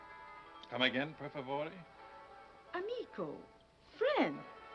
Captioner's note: speaking foreign language